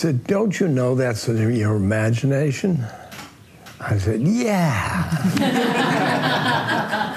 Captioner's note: laughter